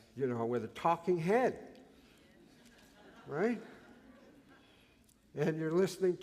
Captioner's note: laughter